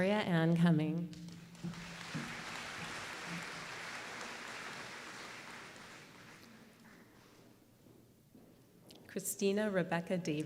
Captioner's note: applause